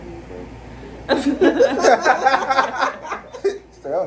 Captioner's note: laughter